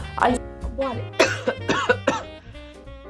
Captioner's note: coughs